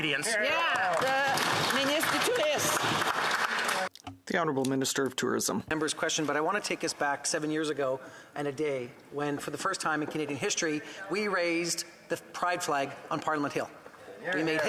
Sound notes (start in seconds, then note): 4.0 applause; 5.9 speaking in French